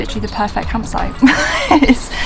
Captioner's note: laughs